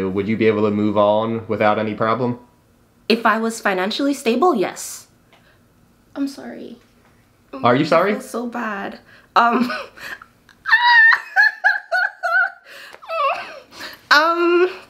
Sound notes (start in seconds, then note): 10.5 laughs